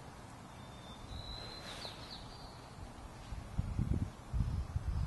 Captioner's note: birds chirping